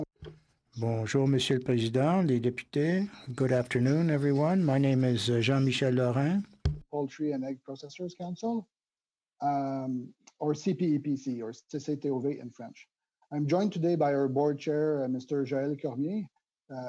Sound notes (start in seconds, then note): 4.8 speaking French